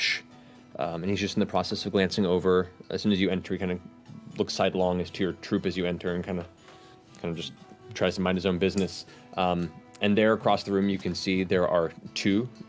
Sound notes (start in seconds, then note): none